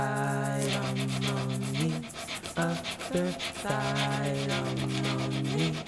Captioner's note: sandpaper drags back and forth